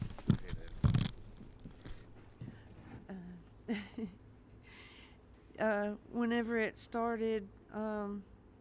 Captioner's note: laughs